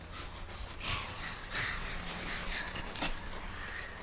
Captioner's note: mysterious whispering